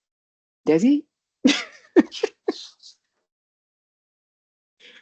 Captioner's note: chuckles